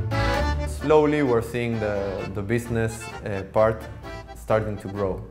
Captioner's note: man's voice